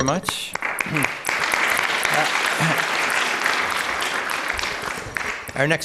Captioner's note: applause